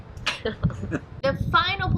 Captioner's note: both laughing